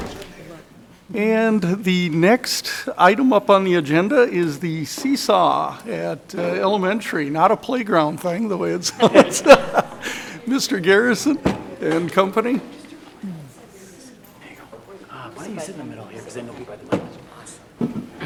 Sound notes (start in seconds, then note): 8.8 laughs